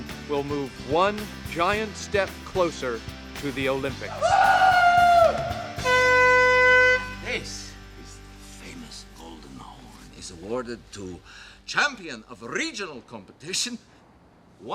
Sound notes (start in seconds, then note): 4.1 man cheers; 5.7 air horn blares